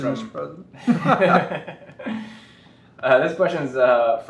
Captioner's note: laughter